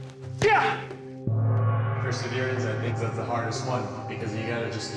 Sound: echoing

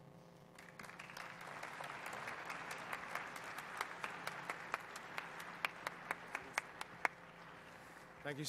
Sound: audience applauds

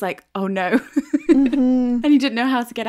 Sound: laughing

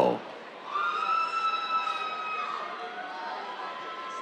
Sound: cheers

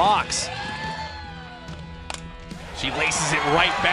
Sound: sound of ball connecting with bat

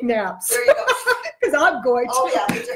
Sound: laughing

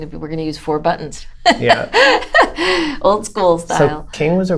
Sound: laughter

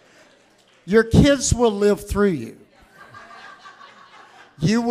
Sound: audience laughs

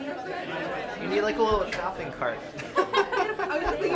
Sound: voiceover; laughter

